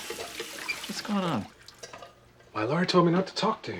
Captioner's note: none